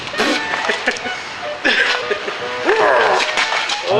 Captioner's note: laughter